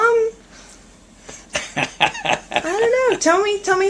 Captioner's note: laughter